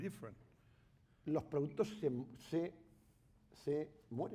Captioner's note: speaking spanish